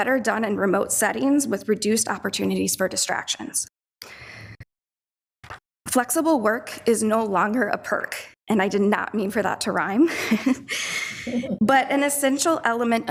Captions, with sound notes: are better done in remote settings with reduced opportunities for distractions. Flexible work is no longer a perk, and I did not mean for that to rhyme, (laughs) but an essential element